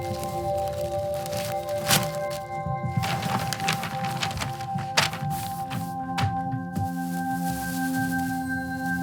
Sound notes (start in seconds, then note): 0.0 newspaper pages turning sound; 3.2 paper rustle; 6.9 plastic bag crinkle